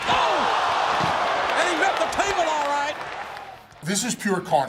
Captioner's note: applause